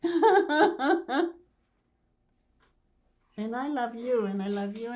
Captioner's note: laughing